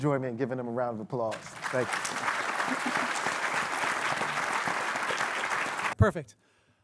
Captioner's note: applause